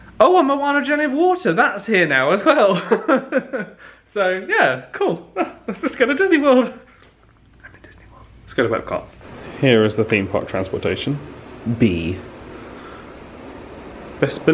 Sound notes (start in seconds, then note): 2.7 chuckles